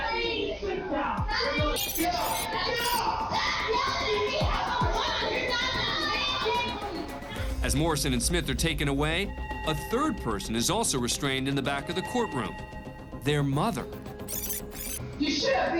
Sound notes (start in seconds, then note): 1.8 angry chatter